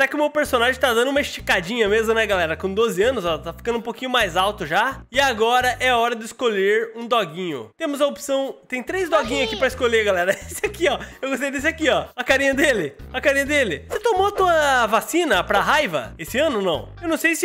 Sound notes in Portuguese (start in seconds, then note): 10.2 risos